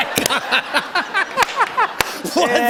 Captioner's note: laughter